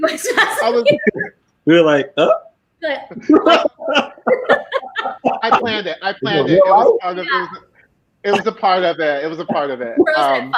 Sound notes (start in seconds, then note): 3.1 all laughing